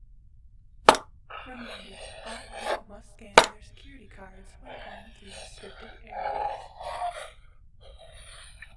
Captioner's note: voice over intercom